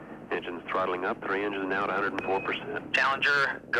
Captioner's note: voiceover